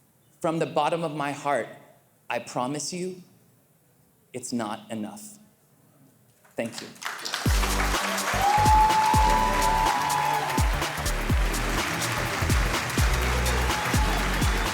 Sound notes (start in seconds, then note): 7.0 audience cheering; 7.4 cheerful music